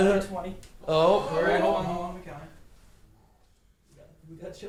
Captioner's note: everyone gasps